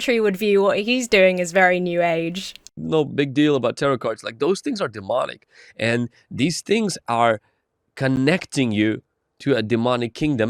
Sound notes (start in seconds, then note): none